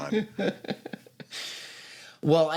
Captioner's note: chuckles